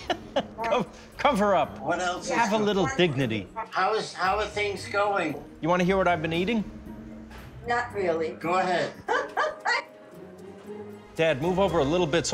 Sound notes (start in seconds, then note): 9.0 laughs